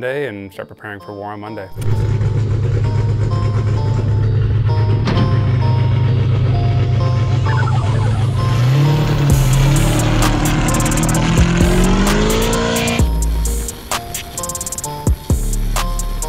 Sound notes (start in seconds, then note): 2.1 car engine roaring; 2.1 upbeat music